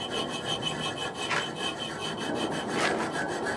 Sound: aircraft engines from outside

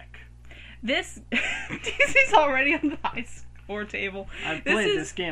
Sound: laughs

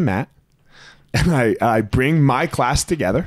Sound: chuckling

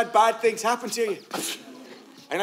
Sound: scoffs

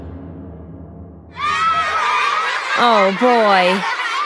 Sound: laughter

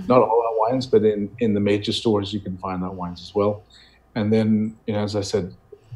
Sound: none

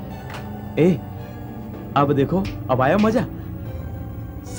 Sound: snaps finger

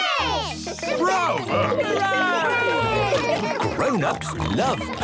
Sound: cheering, applauding

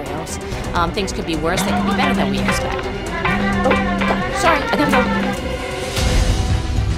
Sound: phone buzzes

